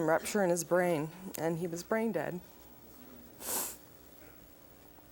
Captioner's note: sniffles